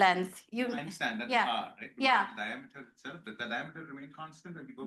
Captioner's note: student mumbling